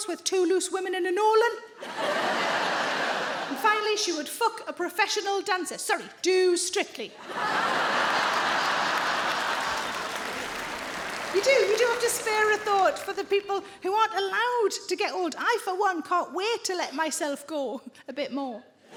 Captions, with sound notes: with two "Loose Women" and a Nolan. And finally she would f*ck a professional dancer. Sorry, do "Strictly." (audience laughing) You do, you do have to spare a thought for the people who aren't allowed to get old. I for one, can't wait to let myself go, a bit more.